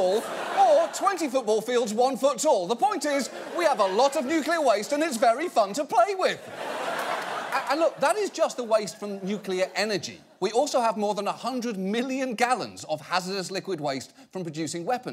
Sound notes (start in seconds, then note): 6.4 audience laughs